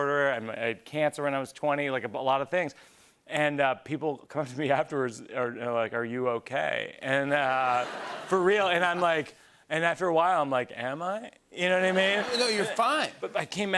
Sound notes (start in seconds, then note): 7.4 laughter